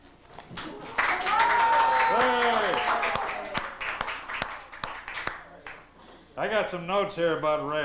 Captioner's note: applause